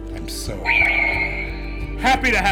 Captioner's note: lightsaber sound